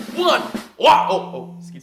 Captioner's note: phone vibrating